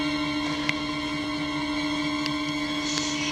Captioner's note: knuckles crack